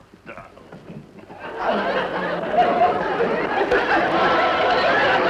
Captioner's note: audience laughing